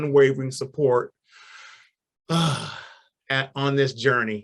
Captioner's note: sighs